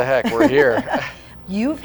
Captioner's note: chuckling together